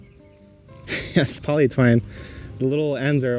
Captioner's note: laughs